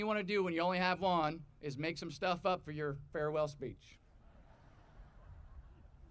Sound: audience laughing

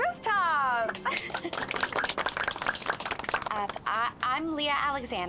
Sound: applause

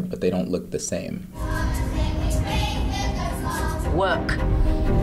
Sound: children chanting

